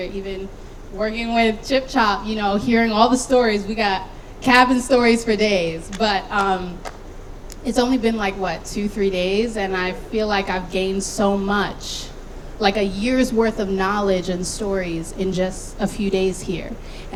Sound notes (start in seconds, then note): 4.9 clapping